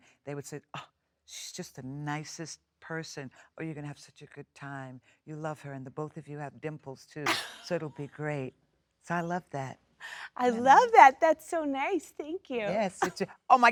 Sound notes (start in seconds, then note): 7.3 Jennifer laughs